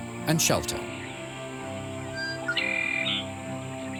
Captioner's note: bird sings